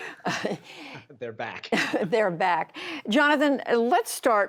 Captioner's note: laughter